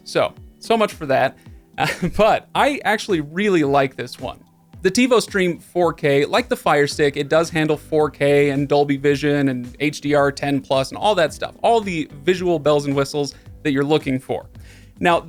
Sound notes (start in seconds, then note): 1.8 chuckling